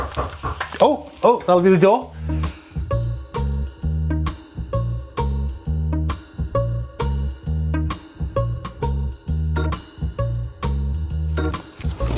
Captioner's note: knocks